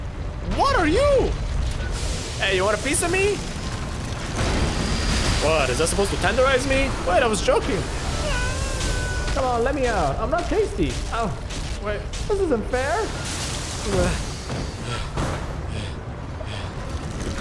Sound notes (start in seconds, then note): 8.1 Hodor screams inside the mechanical monster; 14.5 heavy breathing